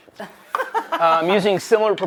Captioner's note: laughs